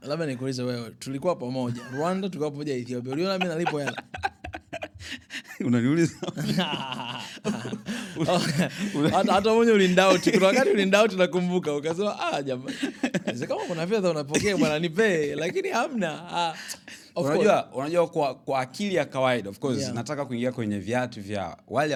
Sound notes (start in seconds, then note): 5.5 laughter; 12.4 laughter